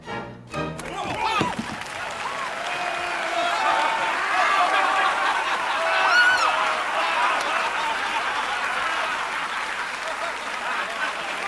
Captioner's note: applause, cheering